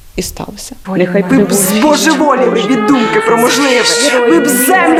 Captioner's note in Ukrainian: лунають звуки сирени